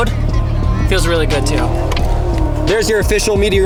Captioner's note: car revving